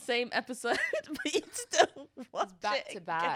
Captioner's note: laughs